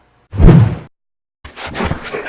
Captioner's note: swoosh sound effect